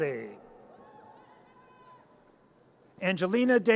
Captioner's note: audience cheers